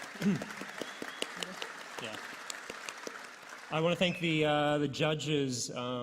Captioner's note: applause